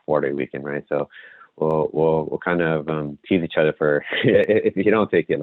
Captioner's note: laughs